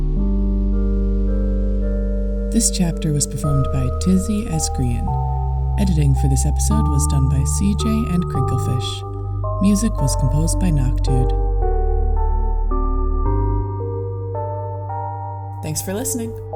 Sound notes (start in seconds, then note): none